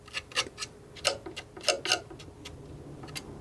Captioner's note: tapping